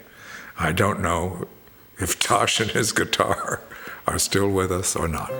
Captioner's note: laughs